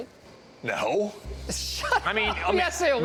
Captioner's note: laughing